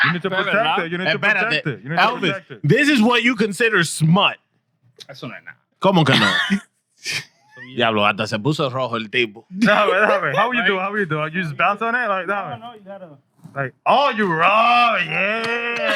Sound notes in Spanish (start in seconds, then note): 0.0 Riendo; 0.1 Hablando en idioma extranjero; 6.0 Hablando en idioma extranjero